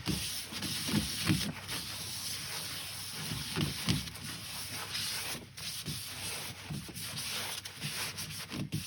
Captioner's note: polishing Sounds